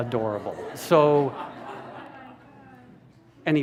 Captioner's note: laughter